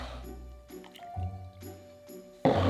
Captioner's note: liquid pouring